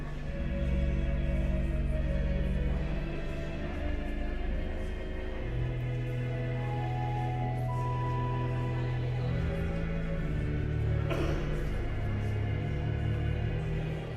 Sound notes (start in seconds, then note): 5.6 elegant music continues; 5.6 guests continue chattering